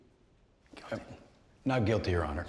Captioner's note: whispering